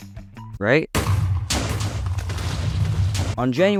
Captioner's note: Minecraft TNT sounds